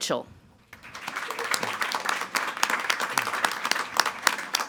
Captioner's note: all applauding